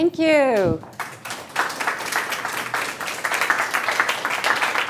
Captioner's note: applauding